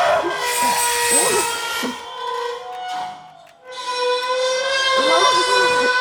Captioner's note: metal screeching; high pitched ringing